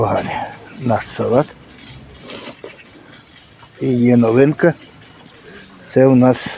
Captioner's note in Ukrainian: прочищення горла